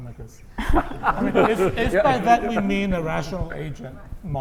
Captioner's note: laugh